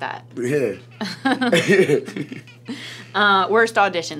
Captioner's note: laughing